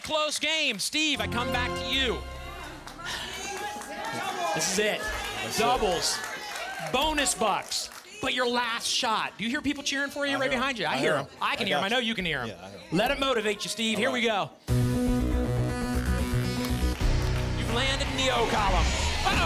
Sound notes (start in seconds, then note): 2.6 cheering